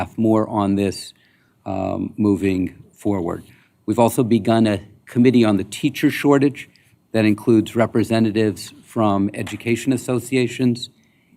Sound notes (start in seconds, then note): none